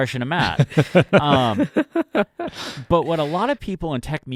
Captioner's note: both laughing